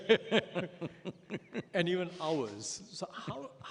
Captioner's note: laughs